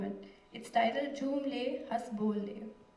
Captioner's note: non-english speech